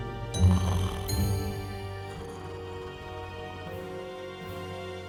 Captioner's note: curious music continues; Murphy snoring